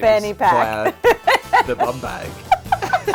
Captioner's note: laughs